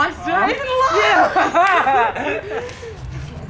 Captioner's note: laughs